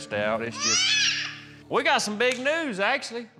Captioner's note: crying out